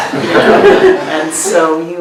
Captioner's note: participants laughing